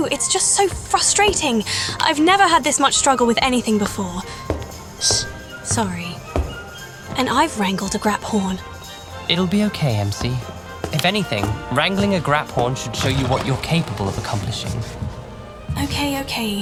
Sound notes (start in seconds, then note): 8.2 mutters